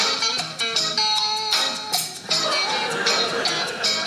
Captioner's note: rings click; audience laughing